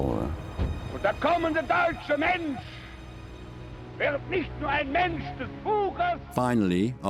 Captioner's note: Goebbels speaking in foreign language